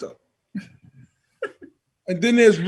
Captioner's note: laughs